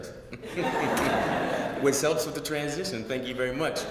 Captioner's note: laugh